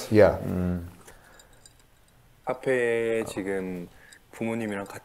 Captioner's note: glass clinking